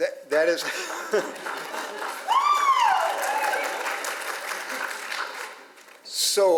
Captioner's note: audience applauds; laughs